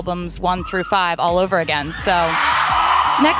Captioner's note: crowd screams